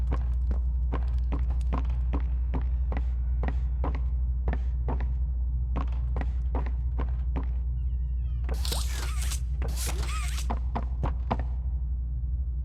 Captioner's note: footsteps